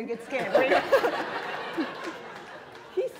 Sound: laughter

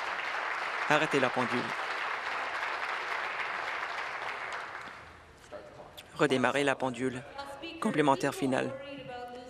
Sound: applause

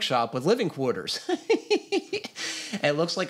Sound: laughs

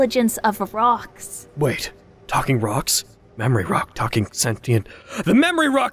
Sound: gasp

